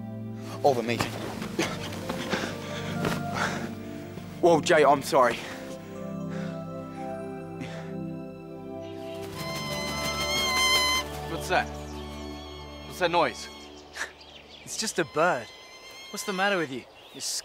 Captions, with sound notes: Oh the meeting! Whoa Jay, I'm sorry. (bird squealing) - What's that? What's that noise? - It's just a bird. What's the matter with you?